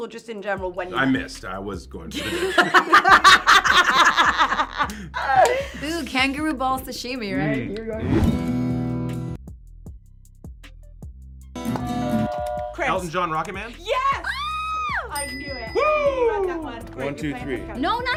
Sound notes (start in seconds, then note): 2.2 laughing; 8.6 guitar strum